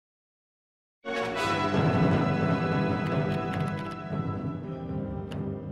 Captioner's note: clicking of Keyboard